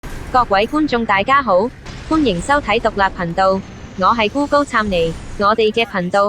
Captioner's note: text to voice cantonese